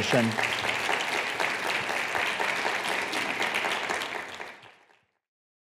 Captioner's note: applause